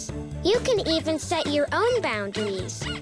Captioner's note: squeaking